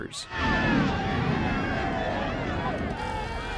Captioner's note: crowd screams